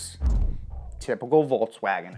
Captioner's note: swoosh